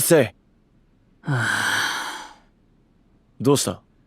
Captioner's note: sighs